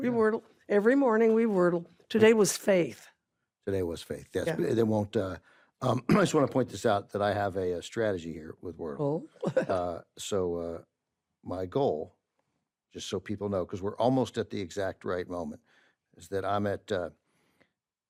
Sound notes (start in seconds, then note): 5.9 clears throat; 9.4 carol laughs